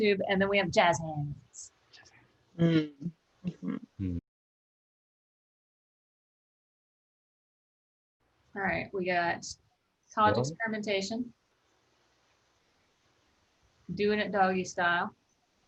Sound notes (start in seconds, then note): 3.2 whispering